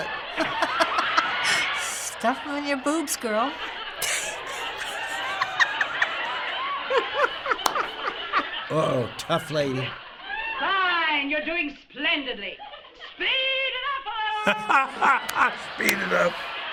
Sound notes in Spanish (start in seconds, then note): 0.1 Se ríe; 3.5 muriéndose de la risa; 6.9 riéndose; 14.3 Risas